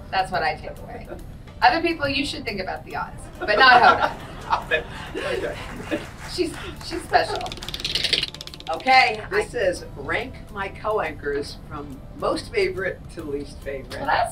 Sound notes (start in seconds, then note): 3.3 laughs; 7.3 wheel clicking